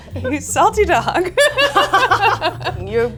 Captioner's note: both laugh